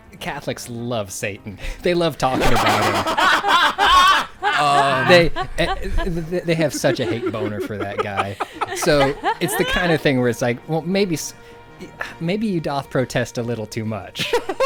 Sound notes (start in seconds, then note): 2.2 everyone laughing